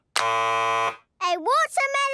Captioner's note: buzzes